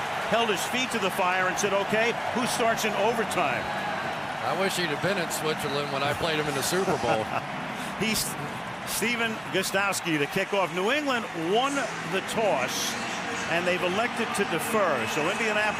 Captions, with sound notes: You should have held his feet to the fire and said, OK, who starts in overtime? I wish he'd have been in Switzerland when I played him in the Super Bowl. [laughs] He's-- Stephen Gostkowski to kick off. New England won the toss. And they've elected to defer.